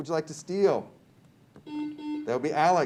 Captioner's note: buzzer beeps